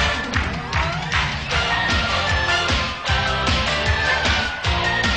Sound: clapping in time to music; fast-paced Music

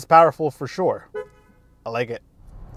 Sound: car horn beeps

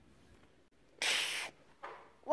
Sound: hisses

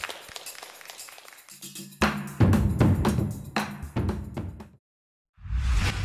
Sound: clapping; fast-paced drum music

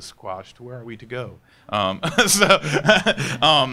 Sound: laughs

